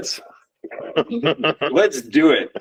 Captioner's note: laughs